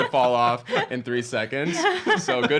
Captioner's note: laughing